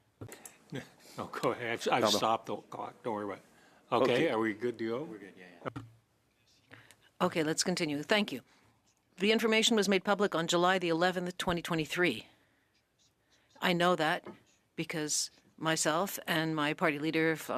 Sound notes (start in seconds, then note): 12.4 speaking French